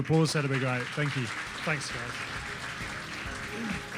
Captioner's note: applause